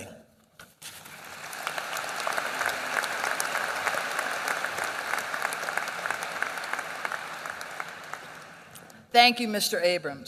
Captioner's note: applause